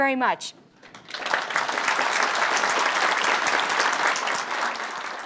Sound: applause

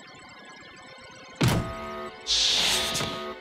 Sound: buzzer sounds

